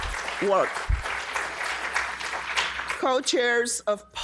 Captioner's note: audience applauding